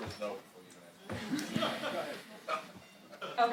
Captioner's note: chuckling